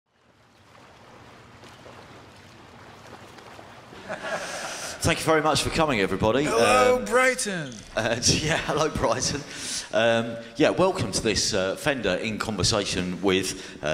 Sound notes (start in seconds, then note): 0.1 waves; 3.9 laughter